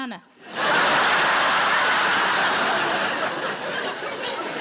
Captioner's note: audience laughing